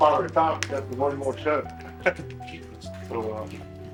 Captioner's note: laughs